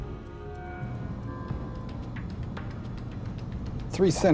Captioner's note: humming